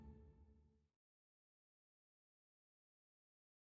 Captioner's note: silence